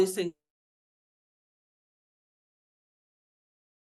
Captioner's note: audio cuts out